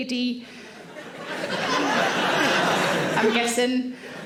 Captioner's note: audience laughing